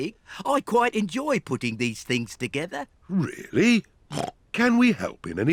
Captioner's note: snorts